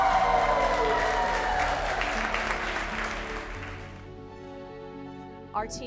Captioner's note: confetti bangs; all applauding; inspiring music